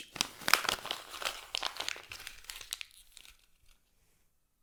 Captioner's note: paper crumpling